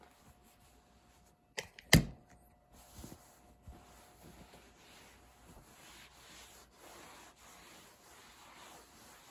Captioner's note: wiping desk asmr